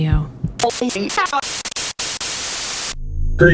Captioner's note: static